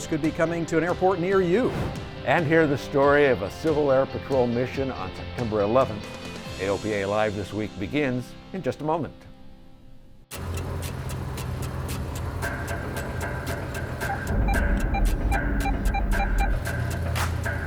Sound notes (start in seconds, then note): 10.3 car engine knocking; 14.1 car beeping